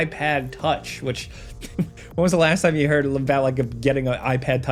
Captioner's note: chuckles